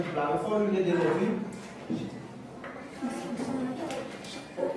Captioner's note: speaking in Kreyol